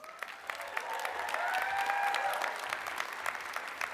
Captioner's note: applause